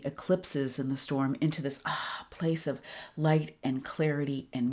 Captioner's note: exhales